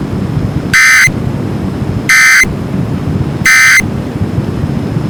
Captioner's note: alert Tones Following